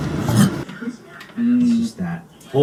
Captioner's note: Mark, mumbling